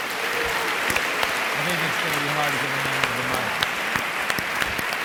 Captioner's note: audience applauding